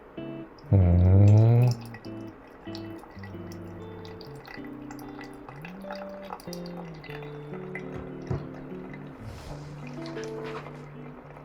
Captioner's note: pouring water